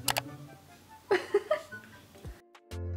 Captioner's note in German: lacht